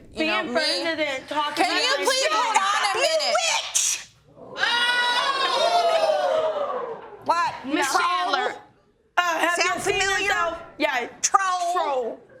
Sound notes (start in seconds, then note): 4.5 audience whooping